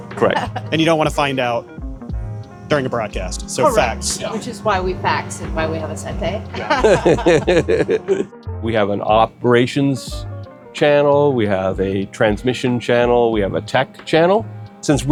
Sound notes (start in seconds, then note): 6.5 laughing